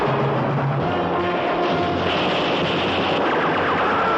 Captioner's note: Ben-David shouts